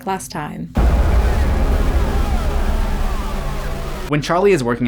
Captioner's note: angry chatter